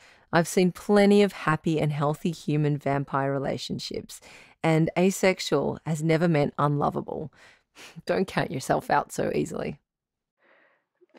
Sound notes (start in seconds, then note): none